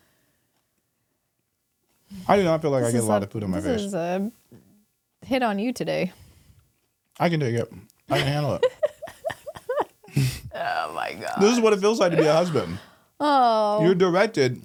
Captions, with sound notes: - I do not feel like I get a lot of food on my face. - This is a hit on you today. - I can take it. I can handle it. (laughing) - Oh my gosh. - This is what it feels like to be a husband. You're directed.